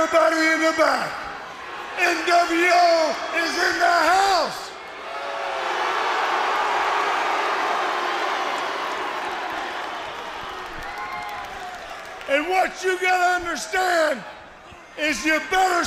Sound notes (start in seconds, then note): 5.1 crowd cheering